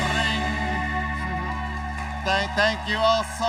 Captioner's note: cheers and applause